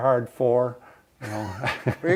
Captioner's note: laughs